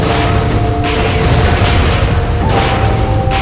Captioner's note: explosions going on, rock platforms falling